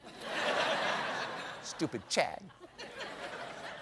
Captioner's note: laughter